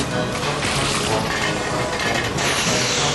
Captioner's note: clatter